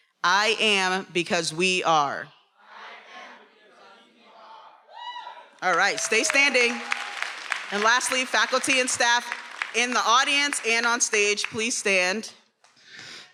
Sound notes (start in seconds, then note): 5.7 attendee cheering; 6.9 attendees applauding and cheering